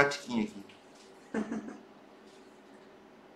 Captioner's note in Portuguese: risos